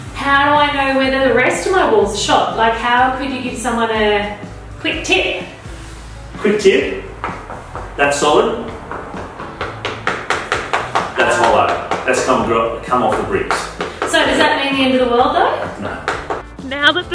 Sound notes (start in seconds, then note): 8.6 tapping on wall; 8.6 tapping louder